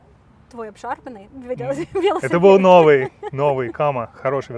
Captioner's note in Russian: смеются